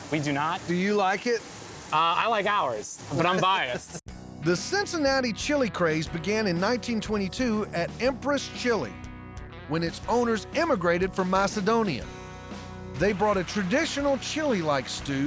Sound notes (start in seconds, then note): 3.2 laughs